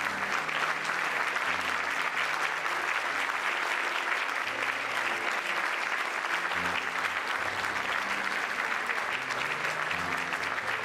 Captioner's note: cheers and applause